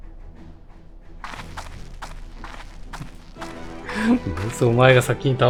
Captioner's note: applause